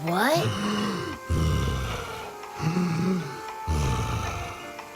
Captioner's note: Taffy breathing heavily